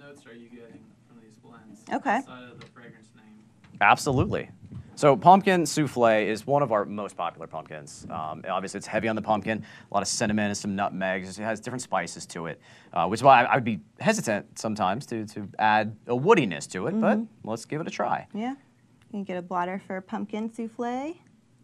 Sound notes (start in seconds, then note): 2.0 voice muffled